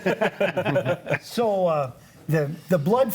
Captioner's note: group laughs